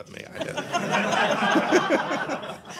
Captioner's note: laughter